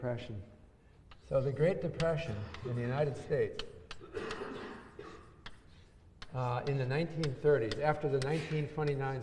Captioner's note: cough